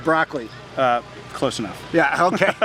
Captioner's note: laughs